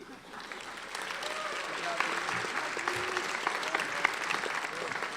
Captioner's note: applauding